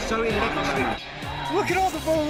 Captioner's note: fans chanting